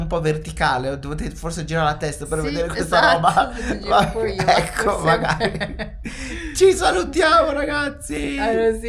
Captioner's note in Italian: risate